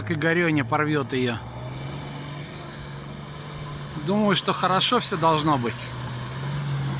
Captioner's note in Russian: Звук рёва мотора